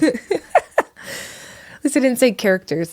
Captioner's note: laughing